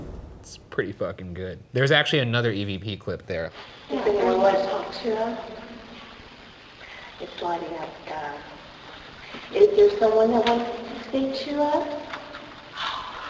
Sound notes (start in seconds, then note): 0.0 tense music; 7.2 ghostly Voice; 13.2 ghostly Voice